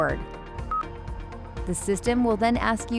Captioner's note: screen beeps